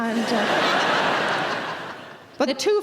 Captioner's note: audience laughs